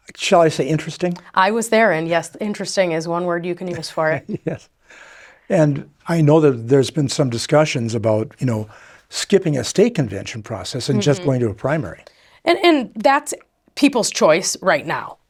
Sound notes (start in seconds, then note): 3.7 chuckles